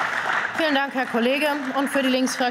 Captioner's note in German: Beifall